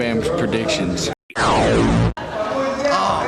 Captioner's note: transformation noise